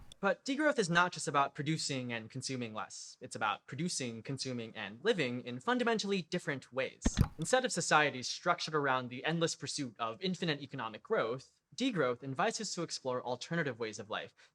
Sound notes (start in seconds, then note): 7.0 click